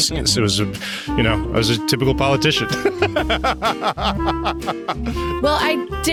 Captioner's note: laughing